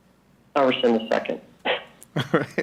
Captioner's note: speaking faintly